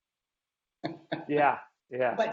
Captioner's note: laughing